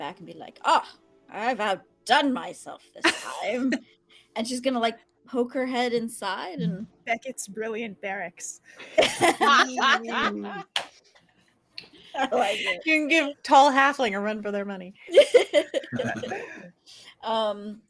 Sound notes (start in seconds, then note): 8.8 all laughing; 15.1 laughing